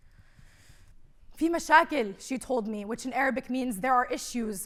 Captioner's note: speaking arabic